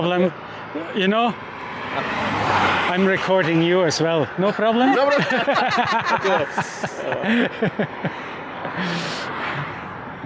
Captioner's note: laughter